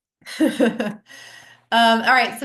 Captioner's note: laughs